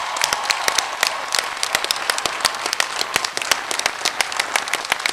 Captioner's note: applause